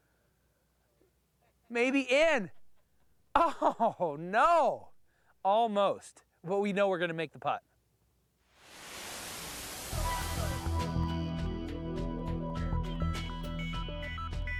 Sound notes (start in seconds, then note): 3.4 laughing; 10.3 <i> ominous techno theme playing</i>